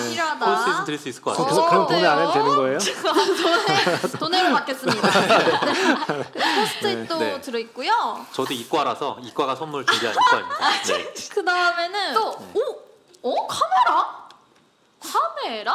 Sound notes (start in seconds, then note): 5.6 laughter